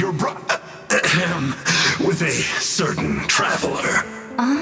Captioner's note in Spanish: Ejem